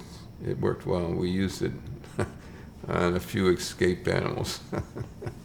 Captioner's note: laughs